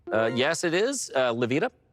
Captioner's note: bright chime